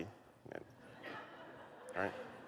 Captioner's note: light laughter